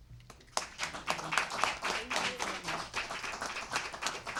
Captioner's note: audience applauding